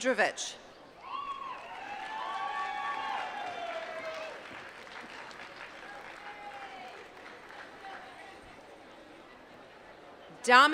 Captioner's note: applause